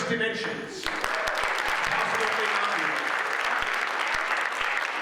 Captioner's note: audience applauds